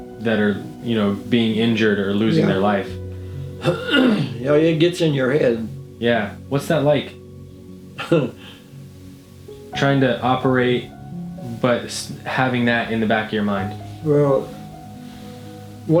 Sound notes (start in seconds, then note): 3.6 clearing throat; 8.0 chuckling